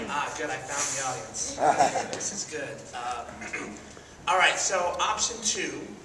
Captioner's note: laughs